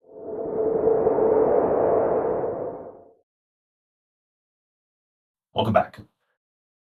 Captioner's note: whoosh sound